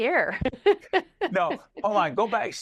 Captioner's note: laughing